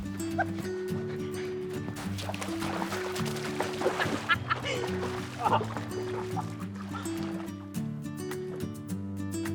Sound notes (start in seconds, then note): 0.2 upbeat music; 3.8 both laughing